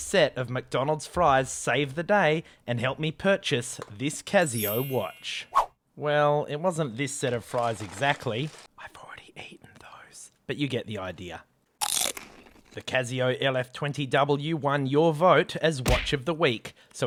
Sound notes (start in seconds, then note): 8.4 whispers